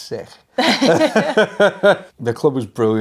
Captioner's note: everyone laughs